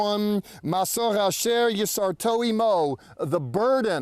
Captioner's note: speaking in Hebrew